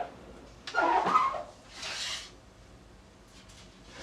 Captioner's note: oven creaks